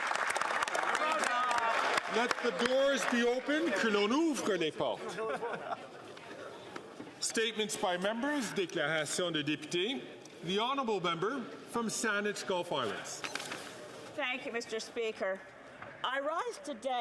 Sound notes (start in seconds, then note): 3.4 some Applause; 8.2 speaking French; 12.3 speaking French